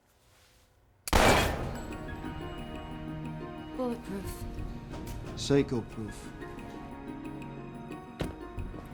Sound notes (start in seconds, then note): 1.1 gun blasts; 1.2 dramatic music